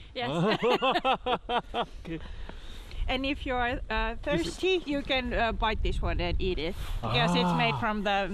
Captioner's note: laugh